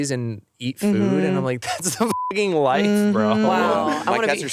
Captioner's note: beep